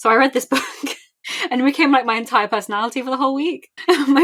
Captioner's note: laughing